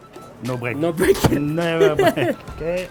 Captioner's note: laughs